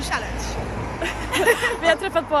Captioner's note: all laughing